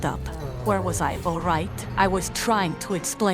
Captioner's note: complaining